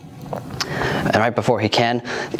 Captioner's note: inhales